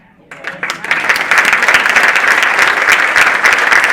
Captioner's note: audience applauding